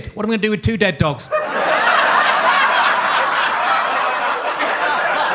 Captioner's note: audience laughs